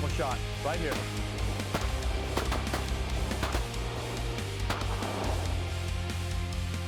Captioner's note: gun shots